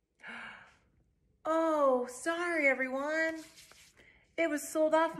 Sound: rubbing hands together

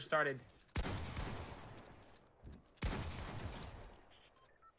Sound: gun firing loudly

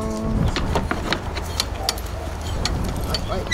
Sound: sound of gate opening

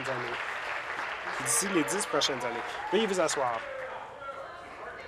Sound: applause

